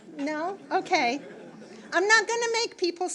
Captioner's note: audience laughing